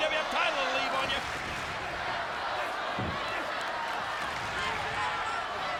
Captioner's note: audience chanting and clapping